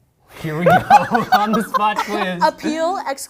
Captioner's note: laughs